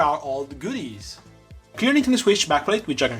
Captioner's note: slightly awkward pause